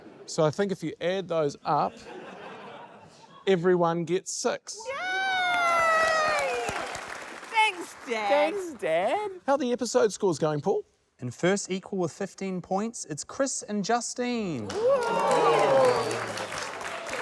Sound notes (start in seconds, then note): 4.9 cheers, applause; 14.6 applause